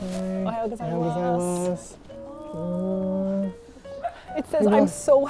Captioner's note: speaking Japanese